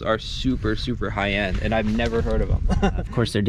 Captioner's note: laughs